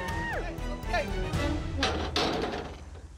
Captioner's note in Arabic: البوابات تغلق